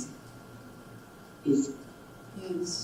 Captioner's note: computer Voice